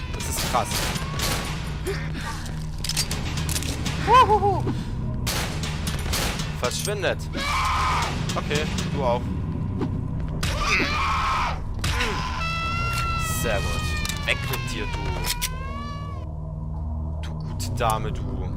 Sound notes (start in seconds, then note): 0.4 glock 17 shots; 5.2 glock 17 shots; 10.1 two punch - and hitting noises followed by a women scream; 13.3 Glock 17 Reload